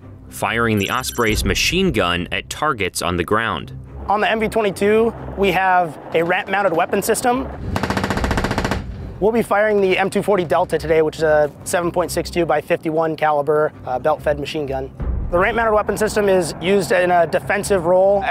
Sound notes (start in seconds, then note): 7.6 machine gun firing